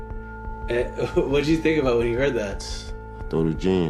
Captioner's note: laughing